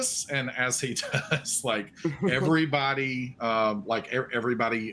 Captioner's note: chuckles